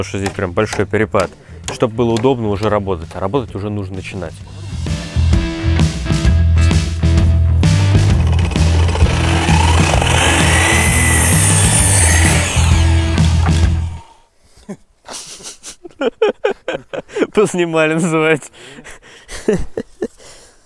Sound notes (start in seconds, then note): 15.1 laughing